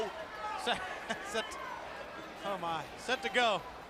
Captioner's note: crowd chatter